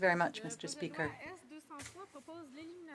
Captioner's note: speaking in French